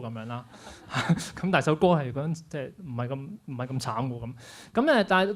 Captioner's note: laughs